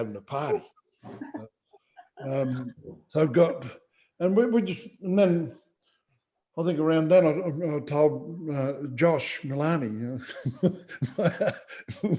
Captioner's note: laughter